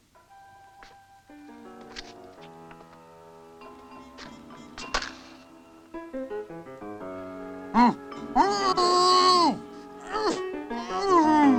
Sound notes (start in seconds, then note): 0.1 ominous music; 7.0 muffled grunting